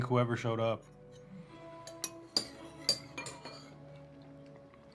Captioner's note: utensils clinking